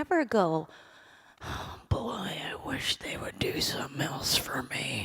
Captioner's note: deep voice